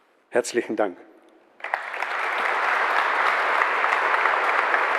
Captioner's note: applause